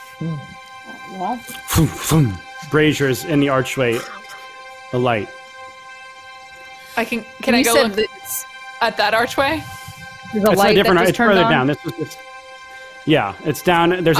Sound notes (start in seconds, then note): 2.9 makes puffing sound